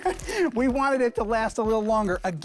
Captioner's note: laughs